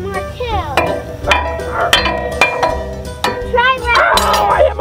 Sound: metal clanging

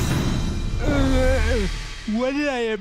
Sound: groaning

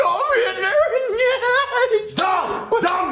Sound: snickers; chuckles

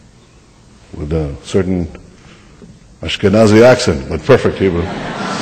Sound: laughter

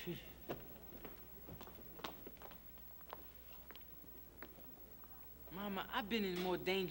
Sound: footsteps

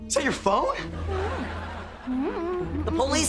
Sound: humming

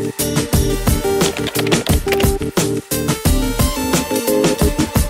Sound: keyboard typing; upbeat music

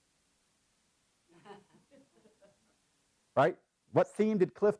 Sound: laugh

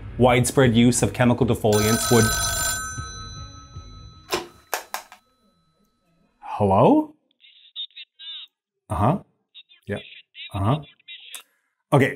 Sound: phonecall

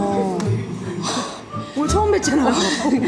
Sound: laughs

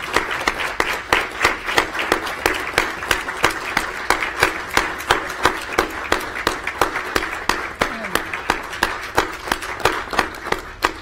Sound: applause

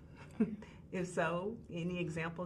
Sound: woman chuckling

